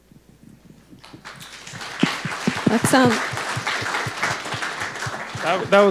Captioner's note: audience clapping